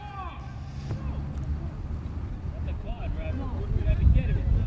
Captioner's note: field chatter